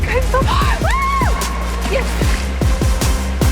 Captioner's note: screams, exclaims